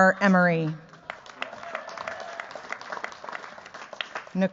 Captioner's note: cheers, applause